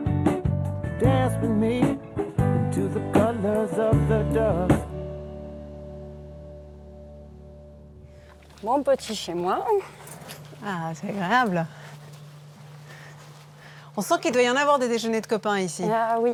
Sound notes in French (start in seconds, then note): 8.9 chant